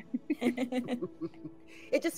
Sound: group laughing

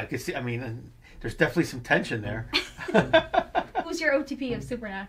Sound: laughs

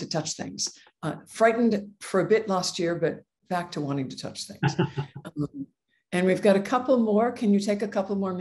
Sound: laugh

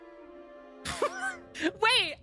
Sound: laugh

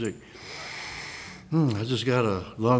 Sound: sniffs

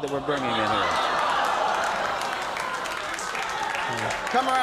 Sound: audience applauding

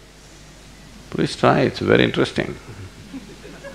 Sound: laughter

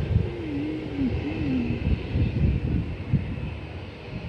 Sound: humming

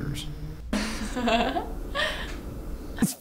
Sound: fast giggling

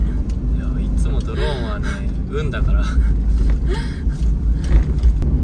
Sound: haha

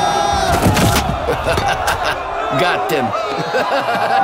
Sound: Landlord laughing; chuckling

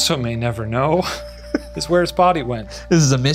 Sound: laughs

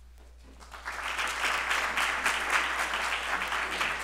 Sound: applause

